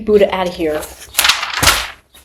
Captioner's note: paper throwing